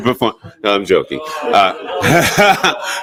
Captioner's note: audience laughs; host laughs